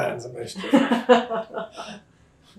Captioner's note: laughter